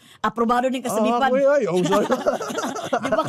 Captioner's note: laughing